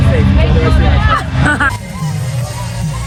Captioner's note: laughs; upbeat music